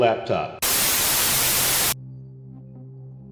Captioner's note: static hissing; solemn music